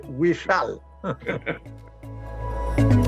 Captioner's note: laughter